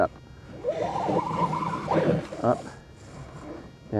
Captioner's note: pulley cranking